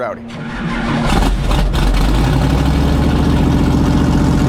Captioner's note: engine rumbling